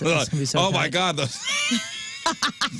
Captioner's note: laughing